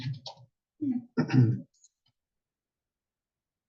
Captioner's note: cough